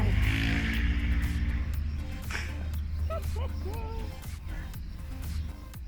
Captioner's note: traffic + laughing